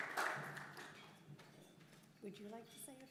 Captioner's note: applause